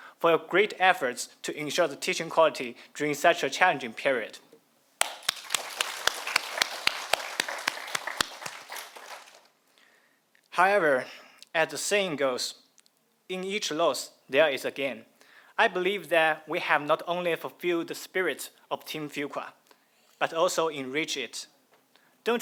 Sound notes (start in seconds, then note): 5.0 audience applauding